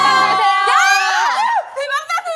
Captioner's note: with a furious voice